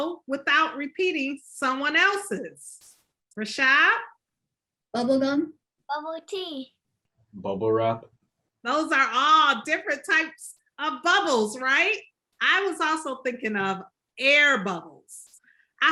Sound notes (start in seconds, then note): none